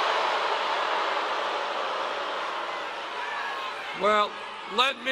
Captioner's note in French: le public hue